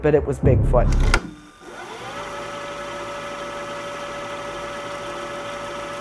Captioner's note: tape recorder whirring